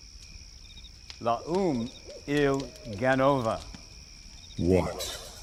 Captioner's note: David speaking in foreign language